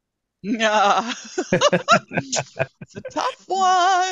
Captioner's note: laughter